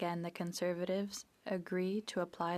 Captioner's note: speaking French